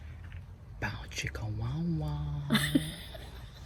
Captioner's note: makes 'bow chicka wow wow' noise while moving pliers suggestively; laughs